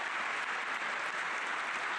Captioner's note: applause